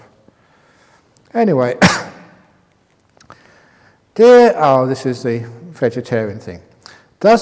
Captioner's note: cough